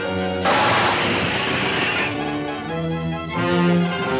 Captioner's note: cars crunching